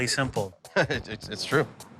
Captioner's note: chuckling